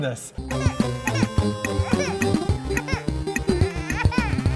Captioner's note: baby disappointing crying sounds